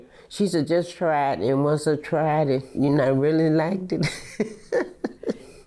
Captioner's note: laughs